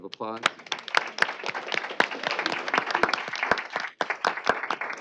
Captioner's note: applause